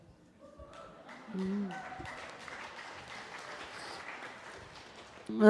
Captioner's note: loud applause